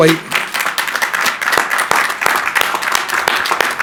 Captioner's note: crowd applauding